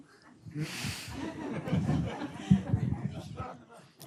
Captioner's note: laughter